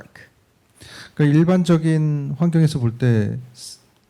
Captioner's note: speaking korean